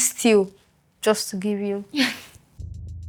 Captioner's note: laughs